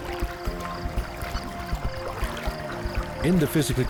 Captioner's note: water splashing